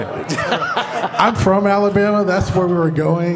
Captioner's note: laughter